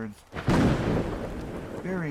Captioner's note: thunder